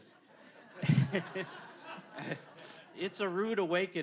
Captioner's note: all laughing